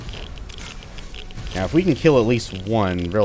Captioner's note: hiss